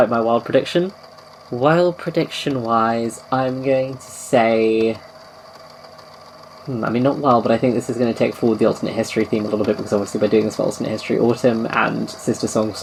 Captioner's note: tape recorder clicks off